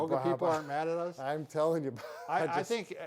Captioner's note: laughing